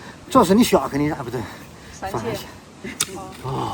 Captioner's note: digging